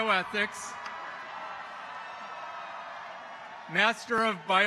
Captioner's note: people cheering